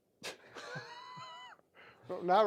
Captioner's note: laughing